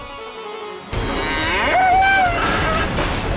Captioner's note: bull grunts